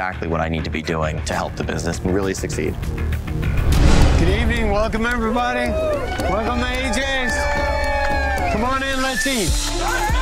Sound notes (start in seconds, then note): 5.0 cheering